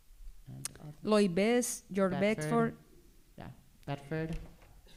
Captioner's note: speaking spanish